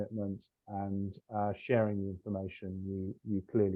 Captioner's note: laughs